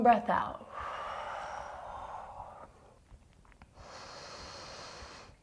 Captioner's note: deep breathing